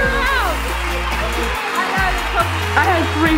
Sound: audience claps

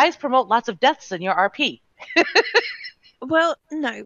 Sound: laughing

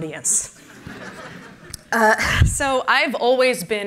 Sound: laughter

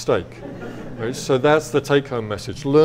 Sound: audience laughs

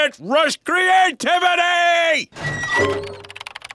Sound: door squeaks open

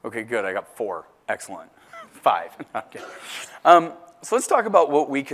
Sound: laugh

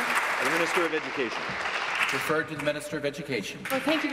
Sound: applause

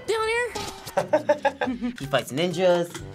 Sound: both laugh

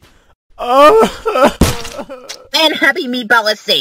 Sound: meatball sobbing

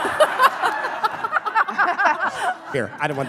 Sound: laughing

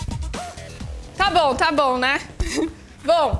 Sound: laughs

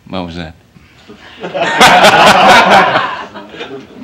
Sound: laughter

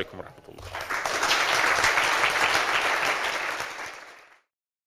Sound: applause

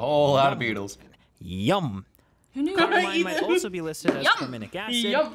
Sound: laughs

